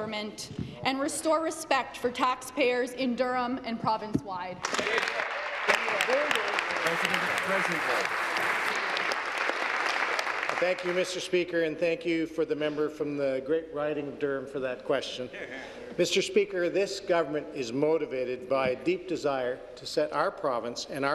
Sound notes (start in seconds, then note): 7.2 applause